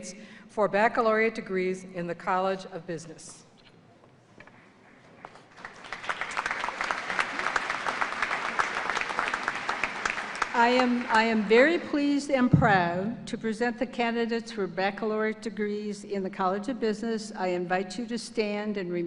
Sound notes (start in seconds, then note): 2.8 applause